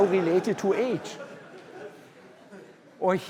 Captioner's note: laughter